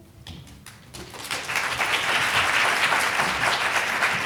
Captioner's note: people applauding